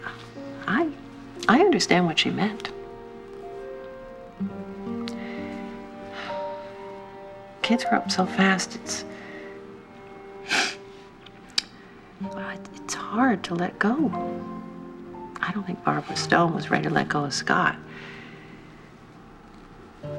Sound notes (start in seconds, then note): 5.1 sighs; 10.4 sniffles